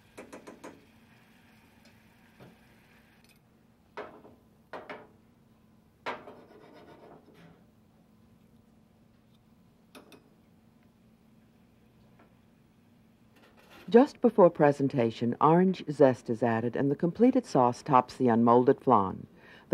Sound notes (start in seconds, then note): 0.3 spoon tapping; 6.3 pan scraping